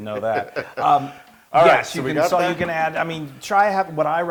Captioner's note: laugh